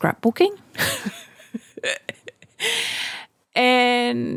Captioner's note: laughing